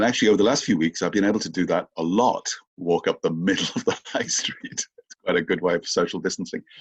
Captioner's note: laughs